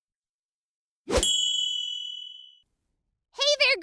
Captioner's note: playful swooshing; chime tinkles